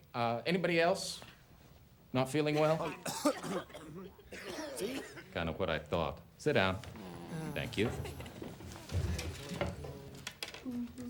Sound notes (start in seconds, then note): 2.5 students coughing; 6.8 students groan